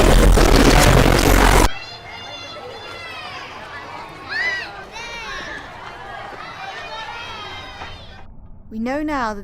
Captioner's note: suddenly, the sound of children playing happily